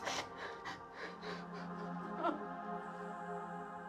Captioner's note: crying